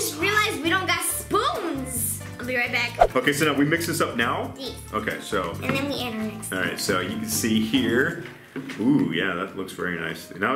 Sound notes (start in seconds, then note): 2.9 swish